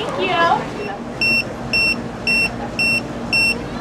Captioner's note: buzzer beeps